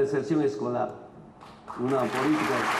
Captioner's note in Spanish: aplausos